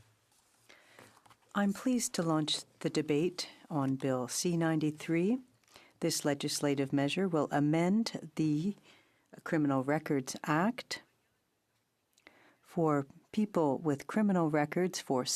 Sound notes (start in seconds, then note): 7.0 speaking in French